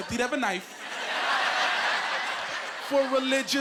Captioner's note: laughing